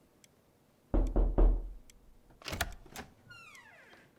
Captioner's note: Lyndon knocks